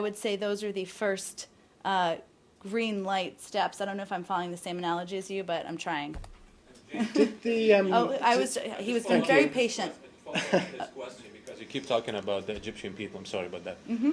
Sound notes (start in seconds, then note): 7.0 laughter; 10.3 laughter